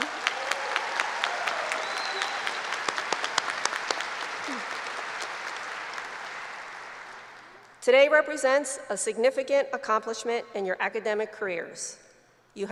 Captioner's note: applause